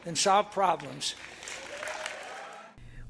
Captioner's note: cheering and applause